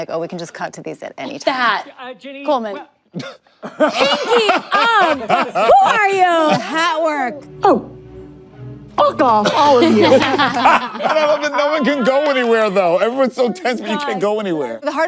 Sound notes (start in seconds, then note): 3.7 everyone laughs; 9.5 everyone laughs